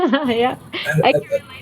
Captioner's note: laughing